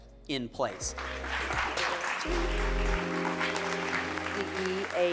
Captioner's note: all applauding